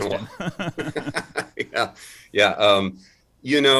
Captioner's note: both laughing